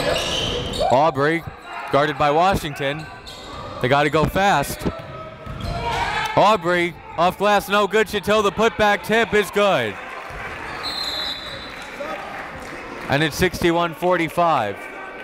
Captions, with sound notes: Obrey guarded by Washington. They gotta go fast. Obrey off glass no good, Chateau the put back tip is good. (whistle blows) And it's 61-45.